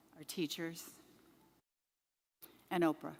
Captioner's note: none